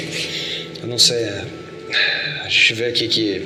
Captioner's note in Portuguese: tique de língua; suspiro